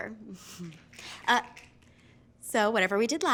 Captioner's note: fingers snapping